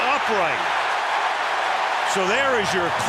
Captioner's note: cheering